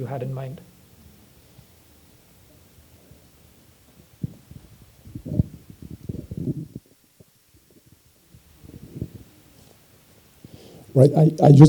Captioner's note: indistinct conversation